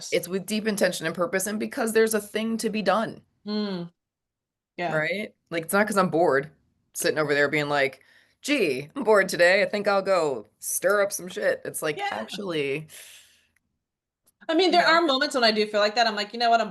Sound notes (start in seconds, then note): 12.9 inhales